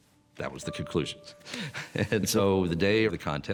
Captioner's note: laughs